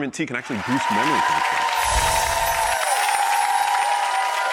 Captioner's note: audience cheers